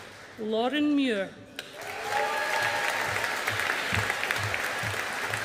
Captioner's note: audience applauding